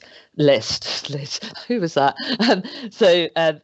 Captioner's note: chuckles